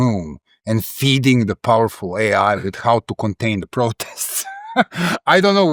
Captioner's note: laugh